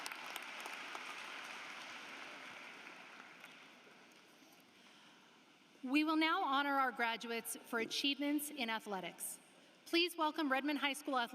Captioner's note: applause